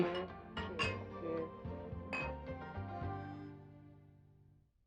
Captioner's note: glasses clinking